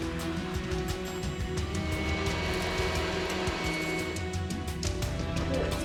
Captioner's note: machine whirring